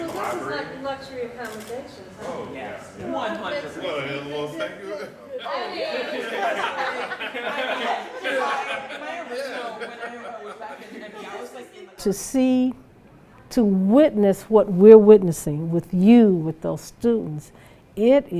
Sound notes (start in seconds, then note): 5.4 students laughing and chattering